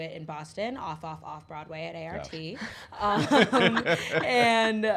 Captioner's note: laughs